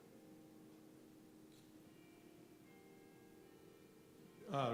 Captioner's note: clock chimes